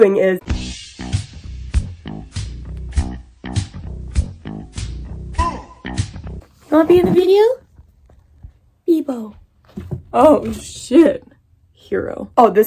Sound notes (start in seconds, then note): 6.5 baby voice